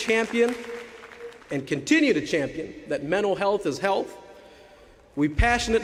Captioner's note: applause